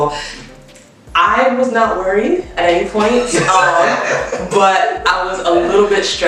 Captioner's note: laughs